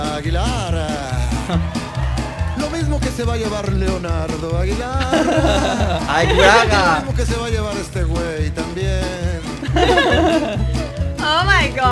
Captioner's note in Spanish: Aplausos